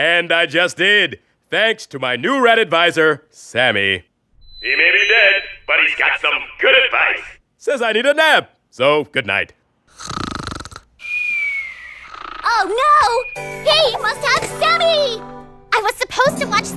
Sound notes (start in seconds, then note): 9.9 snoring